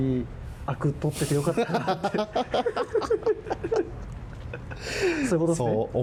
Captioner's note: laughs